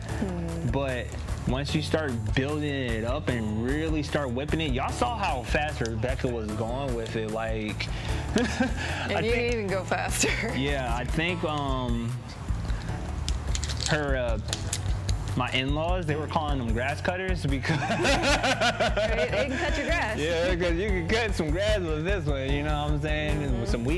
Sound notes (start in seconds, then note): 8.3 chuckles; 17.6 both laugh